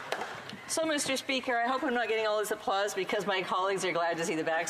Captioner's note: applause